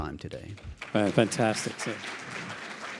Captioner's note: audience applauding